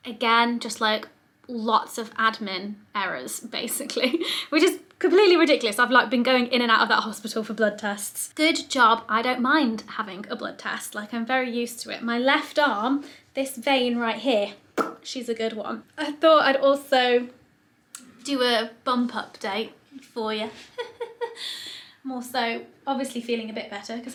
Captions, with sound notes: again, just lots of admin errors basically, which is completely ridiculous. I've been going in and out of that hospital for blood tests. Good job I don't mind having a blood test. I'm very used to it. My left arm, this vein right here, (popping quietly) she's a good one. I thought I'd also do a bump update for you. (giggles quietly) I'm also obviously feeling a bit better,